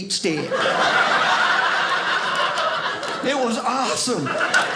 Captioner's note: audience laughing